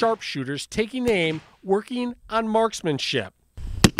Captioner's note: gunfire